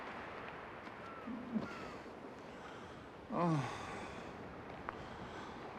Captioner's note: moans